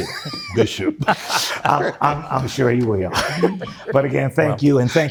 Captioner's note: laughing